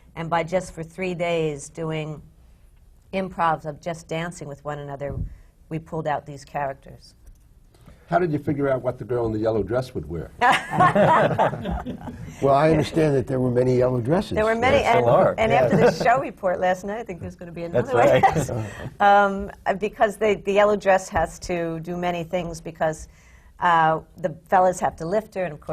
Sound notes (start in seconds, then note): 10.4 laughter; 17.8 laughs